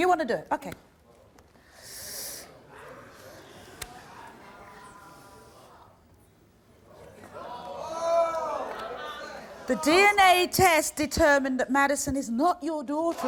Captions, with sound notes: - You wanna do it, okay. (audience yelling) - I'm sorry. - The DNA test determined that Madison is not your daughter.